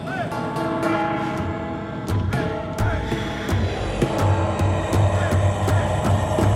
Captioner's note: drum beating; voices chanting